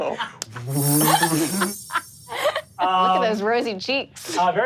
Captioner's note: mimics air whooshing